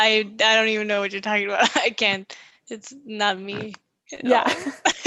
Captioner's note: laughs because of how awkward I made that…